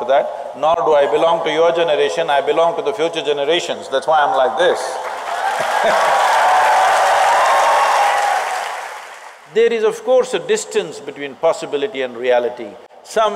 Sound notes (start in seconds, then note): 5.0 applause; 5.7 laughs